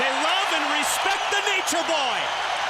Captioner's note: crowd cheering